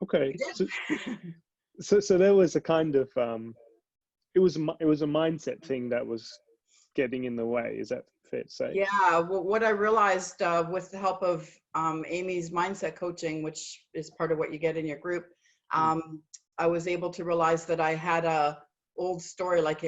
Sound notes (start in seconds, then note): 0.4 laughs